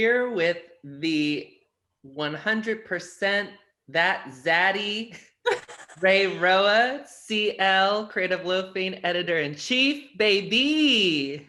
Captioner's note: laughter